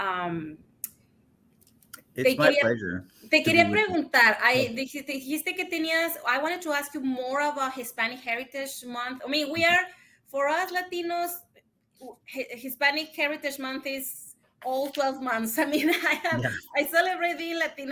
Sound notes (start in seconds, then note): 5.0 speaks Spanish